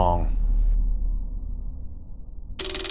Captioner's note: machine Grinding Noise